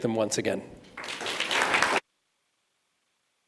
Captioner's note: applause